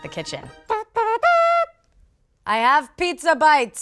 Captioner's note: hums a fanfare